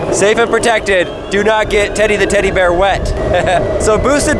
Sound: chuckling

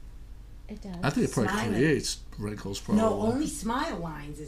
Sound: voiceover

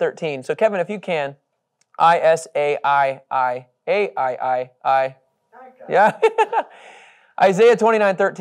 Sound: laughing

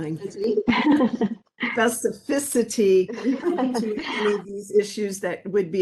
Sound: laughing

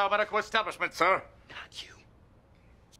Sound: whispered

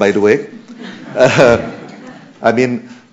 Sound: laughter

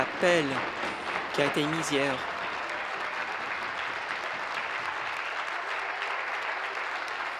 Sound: applause

